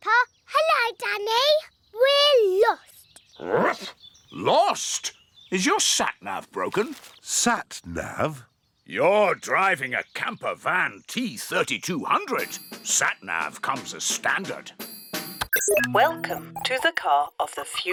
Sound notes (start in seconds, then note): 3.5 barks